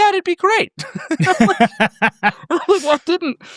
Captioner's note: both laughing